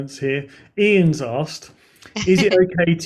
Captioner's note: chuckles